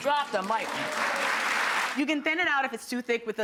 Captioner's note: applause